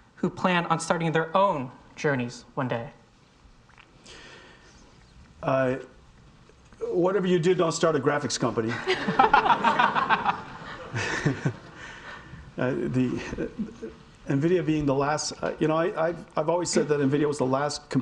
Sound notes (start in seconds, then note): 8.7 audience laughing